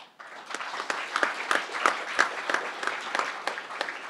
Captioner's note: crowd applauding